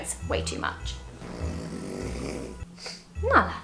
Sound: dog snore

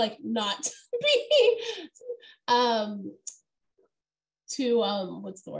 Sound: laughter

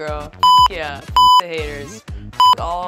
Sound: beep; beep

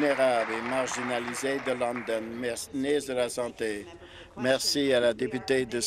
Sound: applause

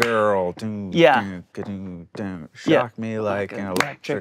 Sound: claps; imitates bassline

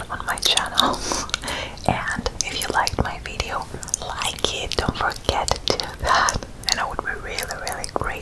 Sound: laughing

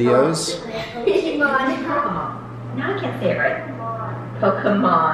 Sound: television chatter

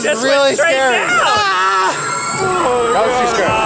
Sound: Zach screams

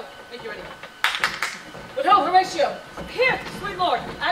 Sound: first Player claps

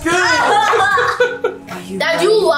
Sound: laughing

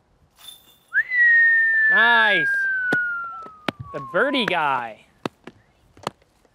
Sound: whistles

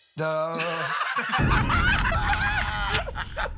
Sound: laughter

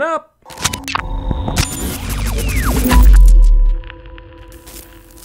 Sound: white noise static jingle

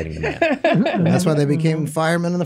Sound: laughs

